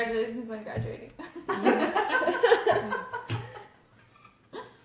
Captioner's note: laughs